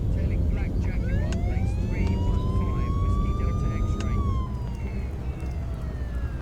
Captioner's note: sirens wailing